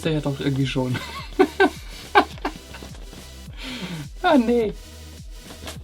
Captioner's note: laughing